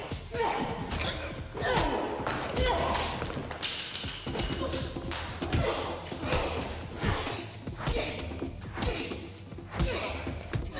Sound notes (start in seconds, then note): 2.7 blows thudding; 2.7 people groaning